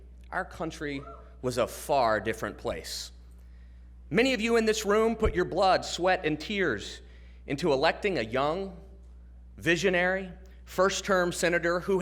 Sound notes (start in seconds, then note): none